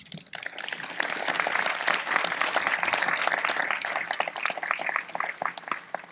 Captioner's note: applause